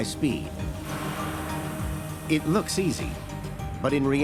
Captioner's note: whirring